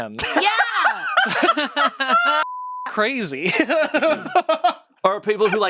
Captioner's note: everyone laughs; laughs